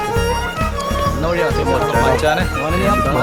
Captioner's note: crew chattering